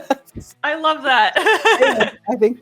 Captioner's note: laughs